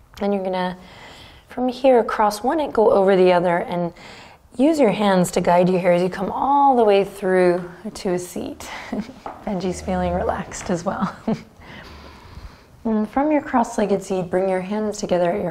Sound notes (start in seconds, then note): 11.0 chuckles